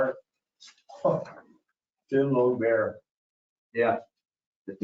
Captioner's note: chuckles